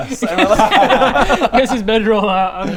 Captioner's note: unsurprised giggles